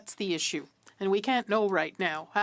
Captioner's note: speaking in French